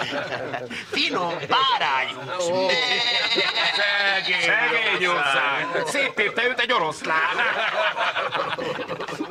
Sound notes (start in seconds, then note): 2.5 man bleats